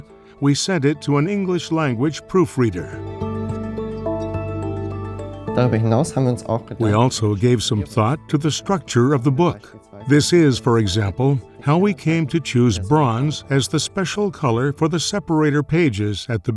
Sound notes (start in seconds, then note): 5.6 non-english speech